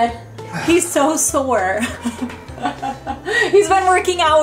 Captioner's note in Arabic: ضحك